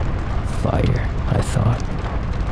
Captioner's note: none